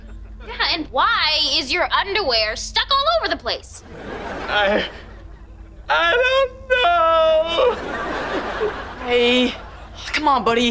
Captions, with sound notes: And why is your underwear stuck all over the place? I... I don't know. [crying] Ray, come on, buddy.